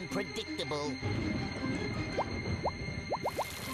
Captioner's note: thunder rumbling